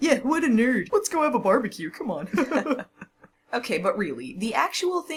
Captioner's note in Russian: оба смеются